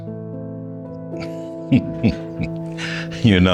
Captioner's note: chuckles